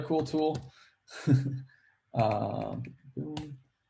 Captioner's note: laughs